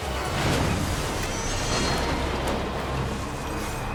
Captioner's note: vehicles crashing